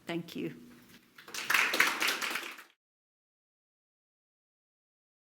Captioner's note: audience applauds